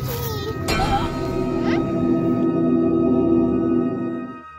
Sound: bell rings

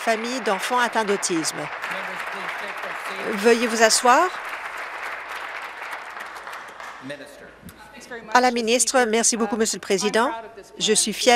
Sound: applause

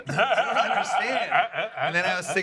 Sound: seth laughs

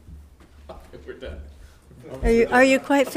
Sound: laughs

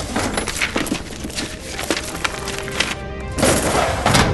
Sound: shuffles through papers; opens cabinet; closes cabinet

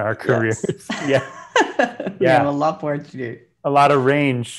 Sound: laughs

